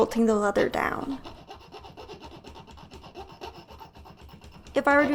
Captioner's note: soft scratching